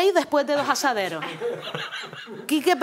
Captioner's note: laughs